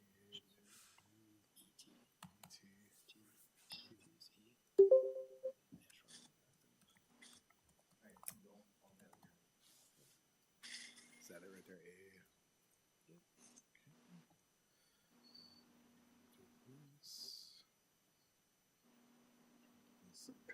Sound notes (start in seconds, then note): 4.8 computer chiming